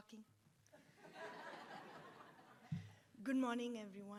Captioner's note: attendees laughs